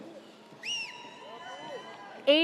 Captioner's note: audience cheers